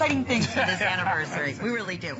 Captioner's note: laughter